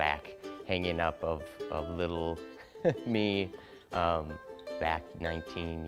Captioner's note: laughs